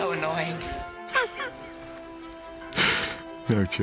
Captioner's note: laughing